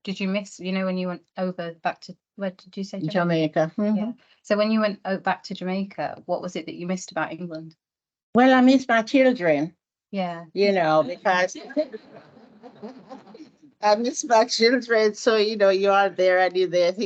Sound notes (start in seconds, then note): 11.2 audience and panel laugh